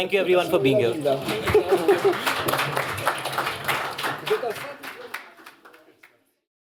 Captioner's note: applause